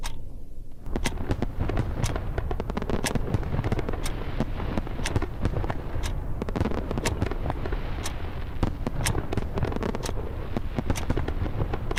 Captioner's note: fireworks going off in the distance